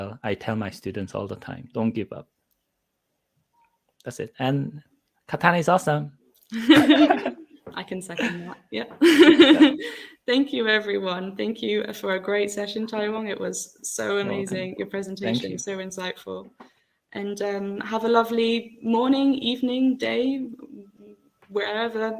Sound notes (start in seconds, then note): 6.5 both laughs; 9.0 laughs